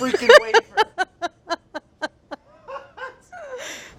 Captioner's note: laughing